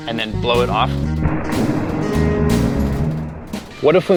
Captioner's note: breath echoing